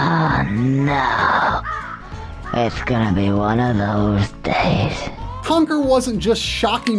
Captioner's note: game audio